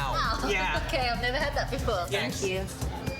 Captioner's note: chuckles